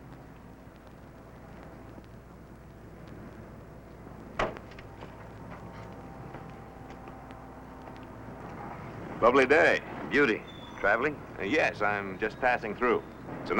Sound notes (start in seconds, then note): 4.3 car door thuds